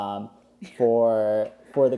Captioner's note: laughs